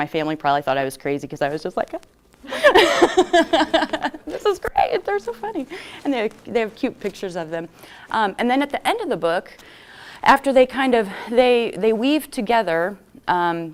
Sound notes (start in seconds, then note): 2.5 laughter